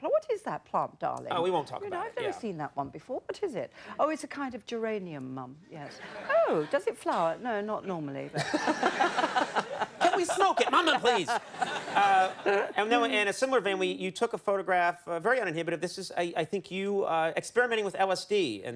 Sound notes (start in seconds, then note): 8.3 audience laughing